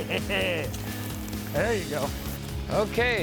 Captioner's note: laughs